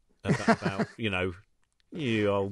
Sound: laughing

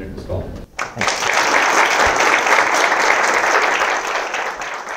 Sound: applause

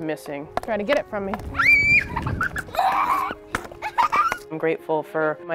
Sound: child laughing

